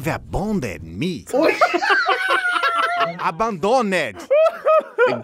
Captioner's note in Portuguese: risadas